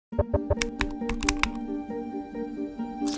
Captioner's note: ident clicks